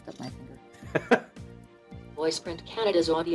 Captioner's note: laughs